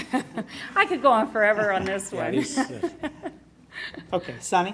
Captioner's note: laughs; laughs